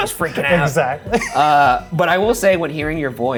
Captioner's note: laughs